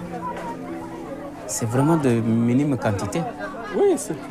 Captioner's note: both speaking French